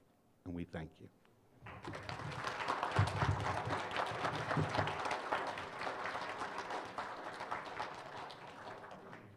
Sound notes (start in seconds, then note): 1.6 applause